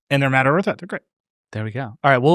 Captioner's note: speaking softly